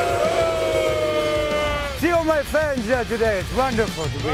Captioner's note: crowd cheering